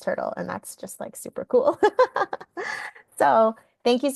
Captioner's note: laughing